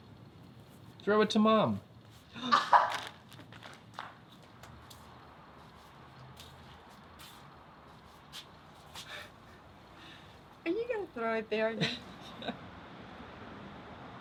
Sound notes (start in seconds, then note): 2.4 laughs; 11.8 giggles